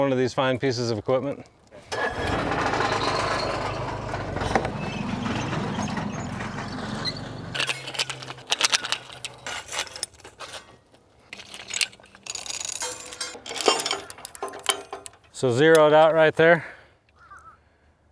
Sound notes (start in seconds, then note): 1.8 machine engine roaring; 7.5 metal chain clinking